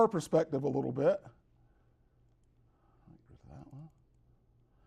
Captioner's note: whisper's to himself